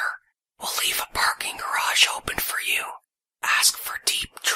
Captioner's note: whispering